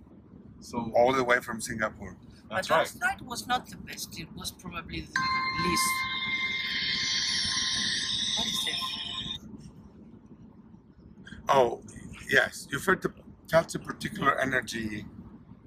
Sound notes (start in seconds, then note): 5.1 mobile phone makes a loud noise